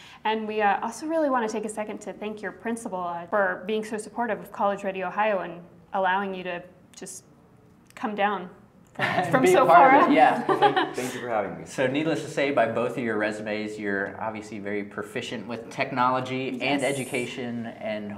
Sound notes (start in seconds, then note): 7.8 laugh